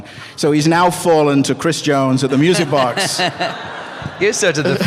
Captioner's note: laughter